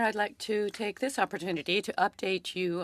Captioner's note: speaking French